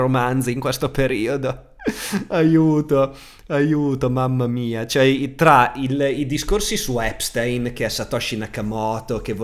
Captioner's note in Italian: risate